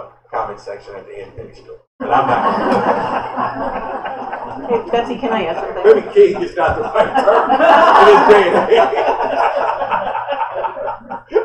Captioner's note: laughter